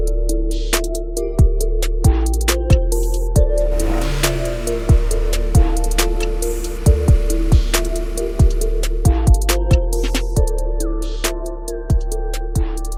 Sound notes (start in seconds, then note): 3.6 car engine revving; 3.7 episode music